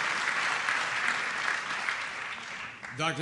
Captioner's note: applause